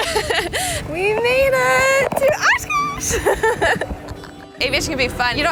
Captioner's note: laughs; laughs